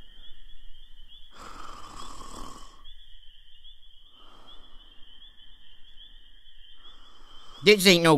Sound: snoring

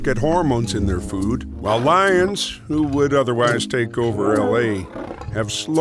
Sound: roaring

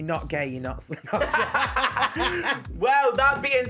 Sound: laughing

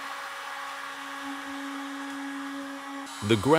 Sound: tool droning continues

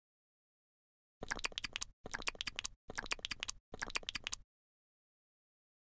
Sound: jess eating sound

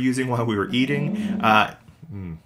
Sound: dragging Noise

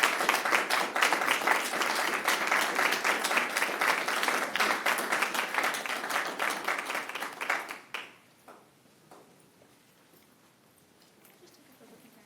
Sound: applause

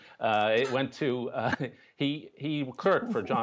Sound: laughter

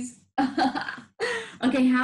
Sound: laughs

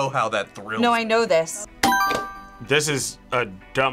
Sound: buzzer rings

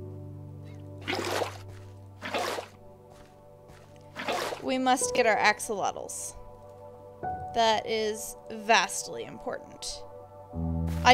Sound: water bucket scoops

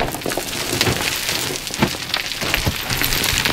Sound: rocks falling

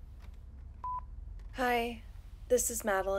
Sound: electronic beeping

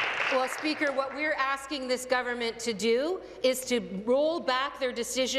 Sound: applause

